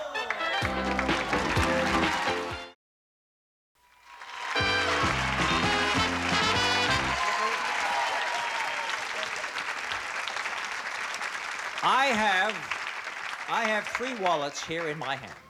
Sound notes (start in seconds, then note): 3.9 applause, cheering